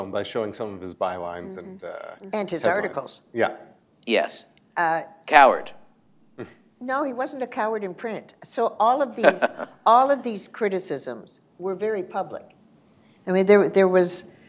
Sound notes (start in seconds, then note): 9.2 laughter